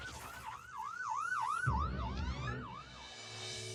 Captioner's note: sirens Wailing